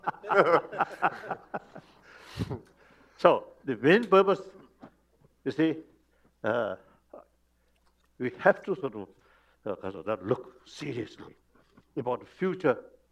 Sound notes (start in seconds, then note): 2.2 laughter